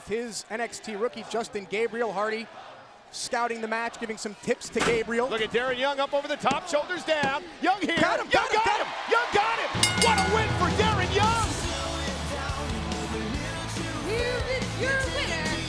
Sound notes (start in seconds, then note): 9.7 bell ringing; 12.7 crowd cheering